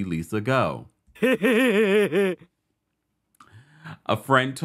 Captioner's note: laugh track laughing